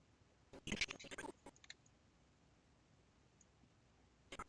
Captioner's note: audio skipping